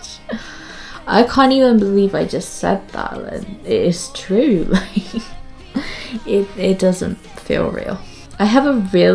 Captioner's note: laughs